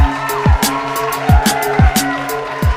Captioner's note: applause